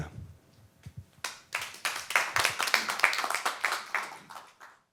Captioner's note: applause